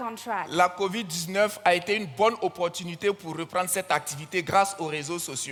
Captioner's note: continues in French